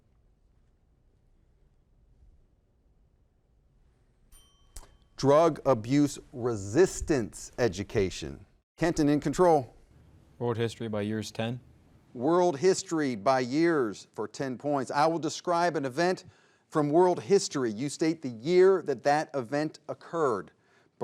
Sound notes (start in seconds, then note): 4.3 timer rings